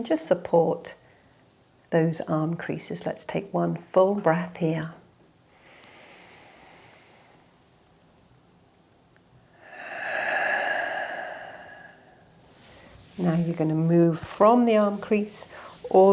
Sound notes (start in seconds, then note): 5.5 inhales deeply; 9.5 exhales sharply